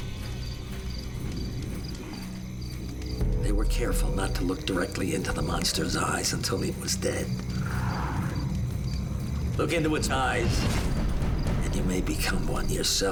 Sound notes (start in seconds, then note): 7.3 growly breathing